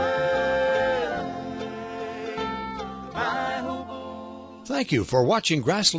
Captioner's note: voiceover